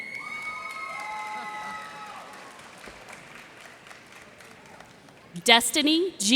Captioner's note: cheers and applause